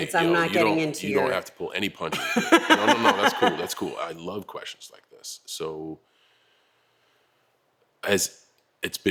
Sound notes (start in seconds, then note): 2.2 laugh